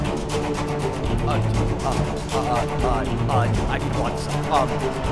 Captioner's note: stutters